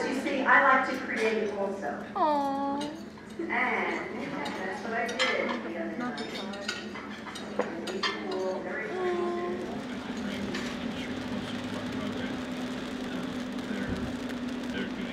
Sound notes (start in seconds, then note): 6.9 utensils clinking; 9.1 engine humming; 9.6 rain pattering